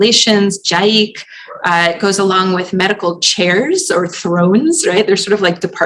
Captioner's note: non-english